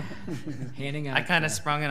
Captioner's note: audience laughing